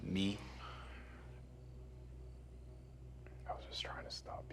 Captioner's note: tense music; crickets chirping